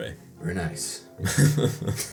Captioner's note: chuckles